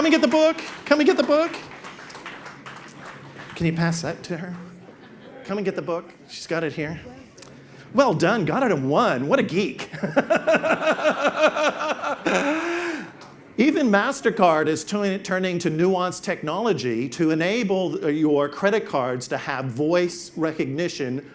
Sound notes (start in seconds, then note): 2.5 audience claps; 9.9 laughs